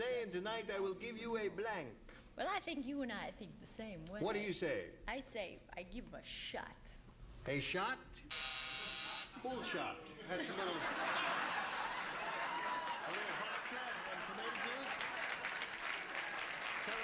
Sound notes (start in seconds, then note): 8.2 buzzer sounds; 10.1 laughter; 10.9 cheers; 15.8 applause